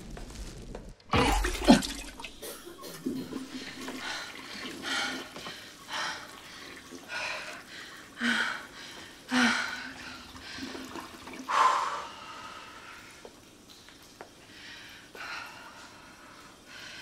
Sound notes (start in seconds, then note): 1.0 retching; 2.4 coughing, panting